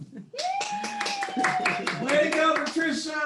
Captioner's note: guests cheering